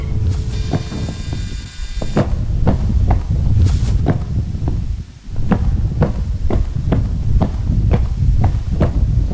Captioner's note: footsteps